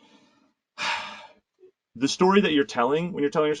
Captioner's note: sighs